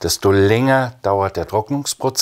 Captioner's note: none